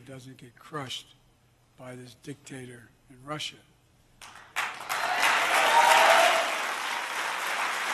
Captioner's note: applause